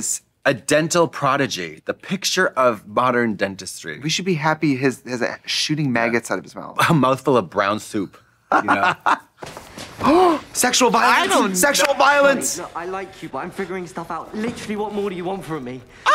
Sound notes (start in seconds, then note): 8.5 Trixie chortling; 9.4 scuffling; 9.9 gasping